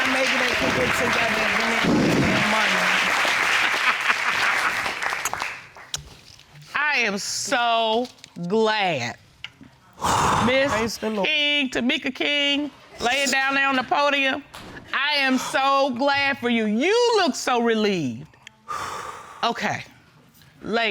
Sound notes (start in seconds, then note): 3.5 laughing; 10.3 sighs deeply; 18.7 exhales sharply